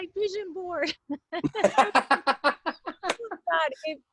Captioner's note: laughter